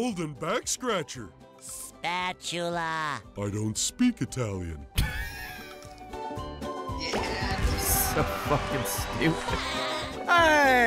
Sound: laughs; Italian accent

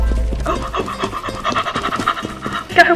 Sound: unholy panicking noises

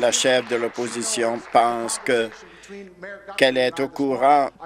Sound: applause

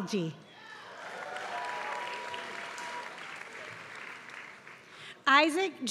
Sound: applause

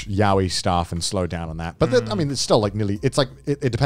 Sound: all laughing

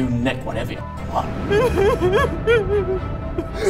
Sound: traumatised wailing

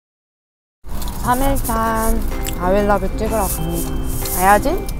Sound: she chewing rice cake

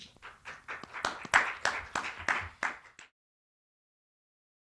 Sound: applause

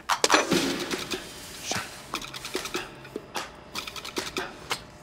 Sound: upbeat sound effects

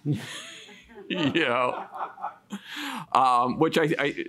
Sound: man laughs; chuckles

